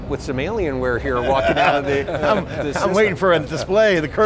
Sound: laughing

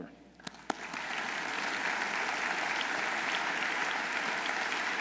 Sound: audience applauding

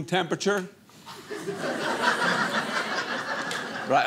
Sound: audience laughing

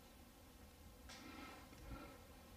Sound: breathing

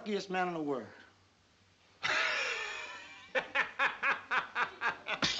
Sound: laughing

